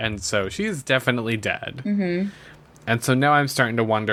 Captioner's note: laughs